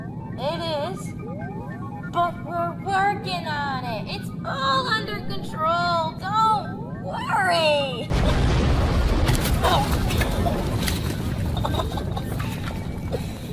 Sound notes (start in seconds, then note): 9.0 crash, Ship Parts Falling; 10.1 laughs dazedly